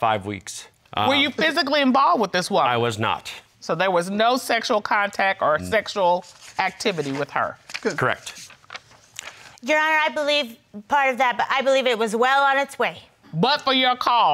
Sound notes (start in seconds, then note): none